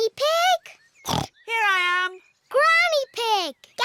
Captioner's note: snorts